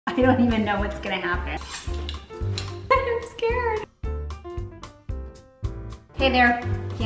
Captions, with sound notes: - I don't even know what's gonna happen. (knife scrapping rod) - I'm scared. (upbeat jazz music) - Hey there.